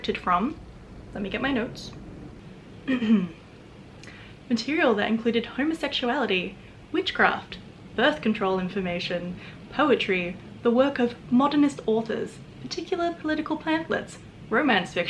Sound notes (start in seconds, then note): 2.8 clears throat